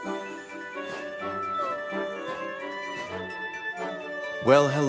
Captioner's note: whimpers